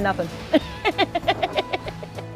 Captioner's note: light playful music; laughs